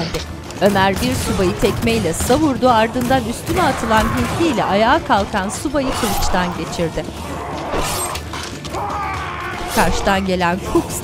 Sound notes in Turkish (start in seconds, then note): 0.1 Müzik - Aksiyon; 0.6 Silah sesleri; 3.5 Haykırma sesi; 5.6 Kesik sesi; 9.4 Kesik sesi